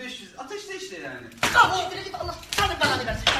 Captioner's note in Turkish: şaplak